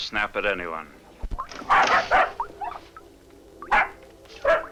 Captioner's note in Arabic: جدعون ينبح